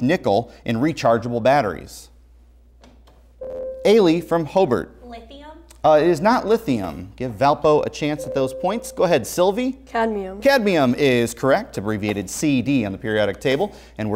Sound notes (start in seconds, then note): 3.4 buzzer